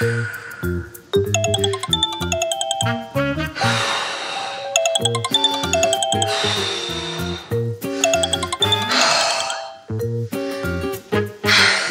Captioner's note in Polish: powtarzający się sygnał komunikatora internetowego